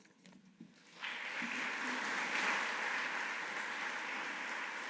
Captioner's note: audience applauding